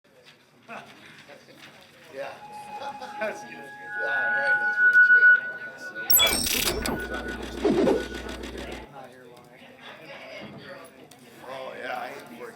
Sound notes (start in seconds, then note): 8.9 attendees chatter